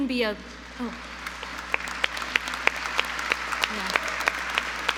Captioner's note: audience applauds